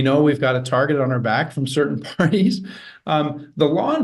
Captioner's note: chuckles softly